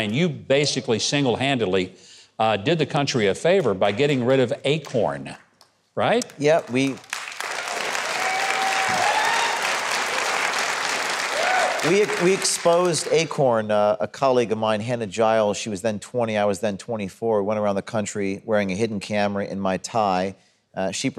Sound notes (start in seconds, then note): 6.2 audience applauding